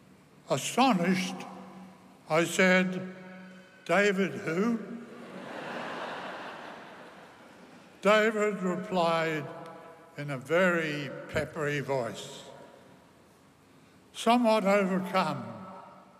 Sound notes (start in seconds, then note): 5.1 laughter